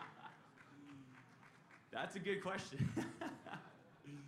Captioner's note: laughter